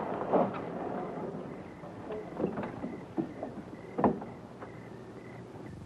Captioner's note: crickets chirping